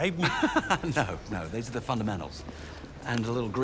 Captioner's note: laughs